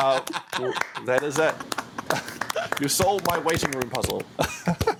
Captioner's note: laughter